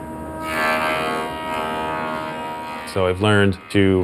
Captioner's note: buzzing